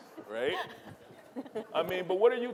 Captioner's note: audience laughing